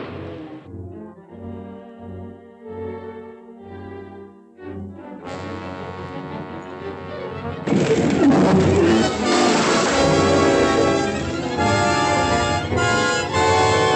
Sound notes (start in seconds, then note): 4.5 menacing music; 7.6 crashing, rumbling